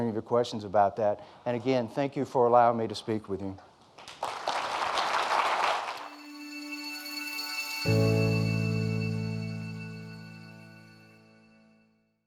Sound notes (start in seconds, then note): 4.0 audience applauding